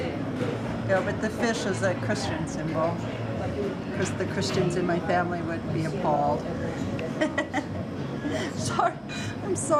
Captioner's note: chuckles